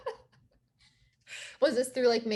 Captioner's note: laughing